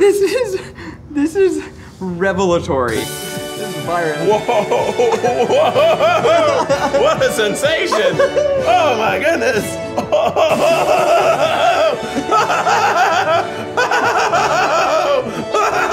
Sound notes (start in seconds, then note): 4.3 laughs; 5.2 bright orchestral music; 10.7 laughs; 12.2 Keith continues laughing